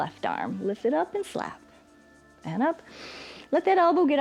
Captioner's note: inhales